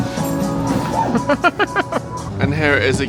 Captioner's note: laughing